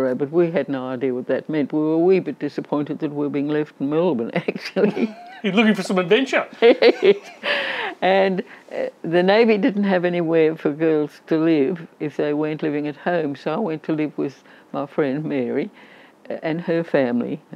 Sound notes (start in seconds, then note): 6.5 lauging